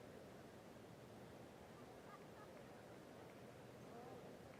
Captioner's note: laughter